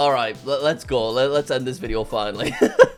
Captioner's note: chuckles